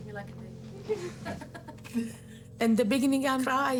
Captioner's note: all laughing